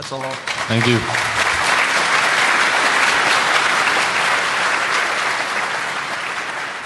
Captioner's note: applause